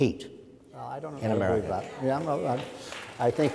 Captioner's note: audience applauds